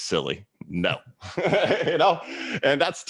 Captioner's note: laughs